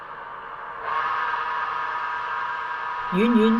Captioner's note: loud whirring